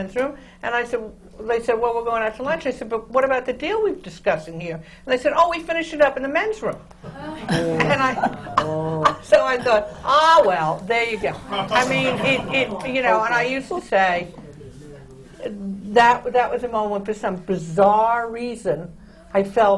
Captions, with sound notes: Of course. Then they all come back from the men’s room, and they said, “Well, we’re going out to lunch.” I said, “But what about the deal we were discussing here?” And they said, “Oh, we finished it up in the men’s room.” (GASPS AND GROANS FROM THE AUDIENCE) So I thought, “Ah, well, there you go!” (LAUGHTER) You know, and I used to say, that was a moment, for some bizarre reason, I felt